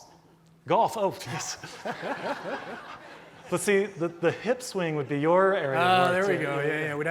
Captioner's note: laughs